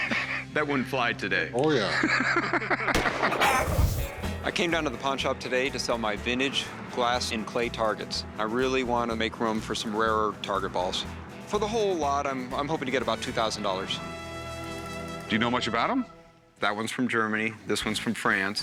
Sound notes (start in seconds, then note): 0.0 laughter; 2.9 gunshot; 3.4 bird squawks